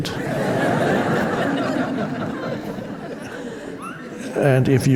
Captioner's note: audience laughing